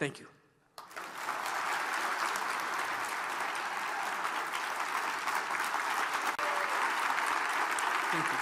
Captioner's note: applause